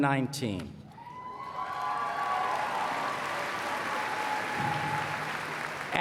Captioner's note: applause